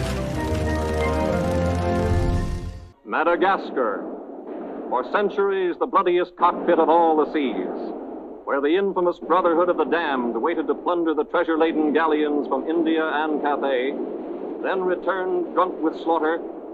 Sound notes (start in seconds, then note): 3.9 cannons blasting; 15.9 cannons blasting